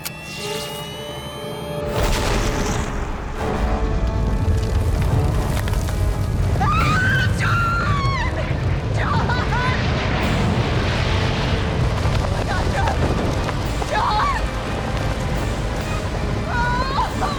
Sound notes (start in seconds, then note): 1.8 explosion booms